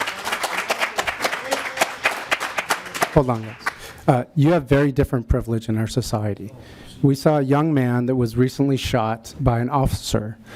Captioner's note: applause